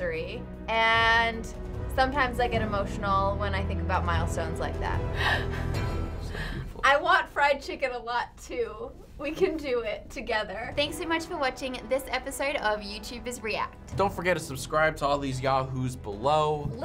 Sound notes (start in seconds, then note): 5.2 chuckles